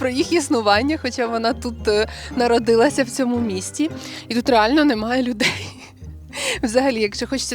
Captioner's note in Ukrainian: сміх